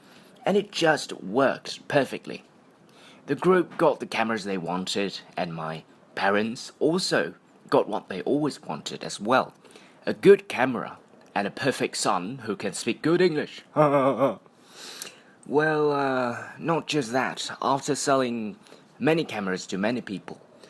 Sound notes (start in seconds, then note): 13.7 that's silly laughing